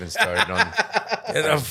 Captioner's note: laughing